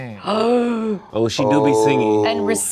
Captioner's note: group gasps